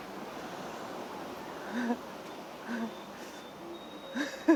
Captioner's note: chuckles